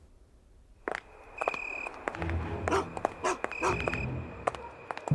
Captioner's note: footsteps